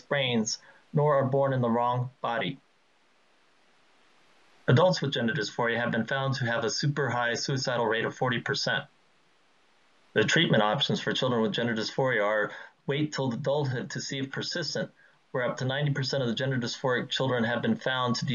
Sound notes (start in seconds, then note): none